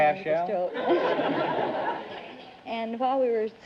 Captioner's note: audience laughter